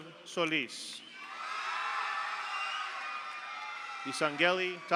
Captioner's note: audience cheers; audience applauds